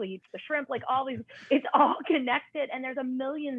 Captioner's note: laughter